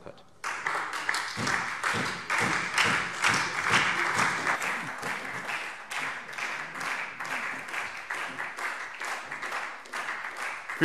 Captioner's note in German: Beifall Freie Demokraten und SPD